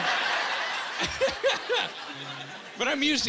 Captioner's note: chuckling